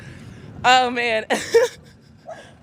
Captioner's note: laughs